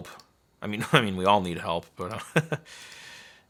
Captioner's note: laughing